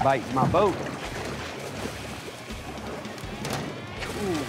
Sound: splasashing

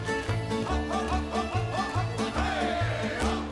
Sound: men chanting

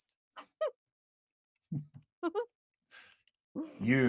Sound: both chuckling

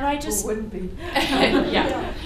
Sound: laughter

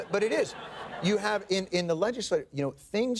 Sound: audience laughs

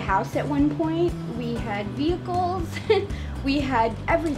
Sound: laughs

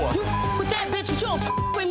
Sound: beeps

